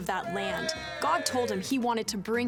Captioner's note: crowd cheering